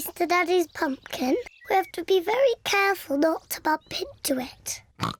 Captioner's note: snorts